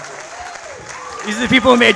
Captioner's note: audience applauds